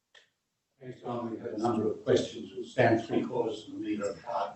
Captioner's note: faintly speaking